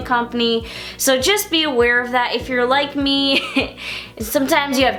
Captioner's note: chuckles